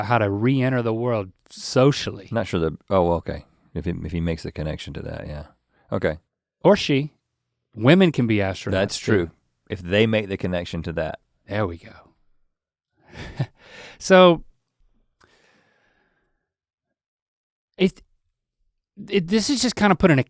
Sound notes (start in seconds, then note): 13.1 Link chuckles